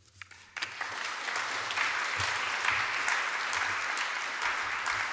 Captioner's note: applause